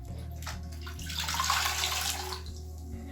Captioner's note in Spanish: ruido de agua escurriendo